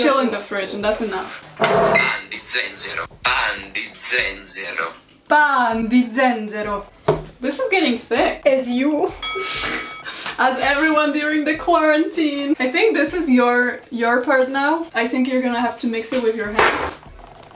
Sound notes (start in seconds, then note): 1.7 Google translate voice speaks; 3.3 Google translate voice speaks in slo mo